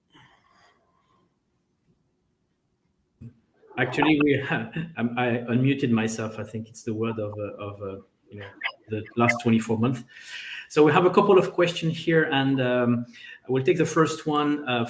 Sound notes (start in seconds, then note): 3.7 chuckling